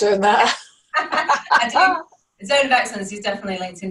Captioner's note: both laugh